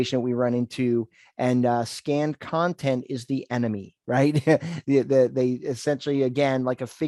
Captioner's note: laughs